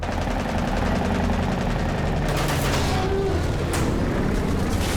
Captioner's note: gunfire